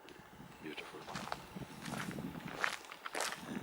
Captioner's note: footsteps